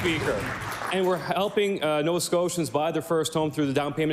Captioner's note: applause